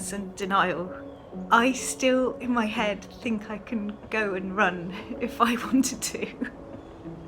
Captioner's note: birds chirping; tense music playing; laughs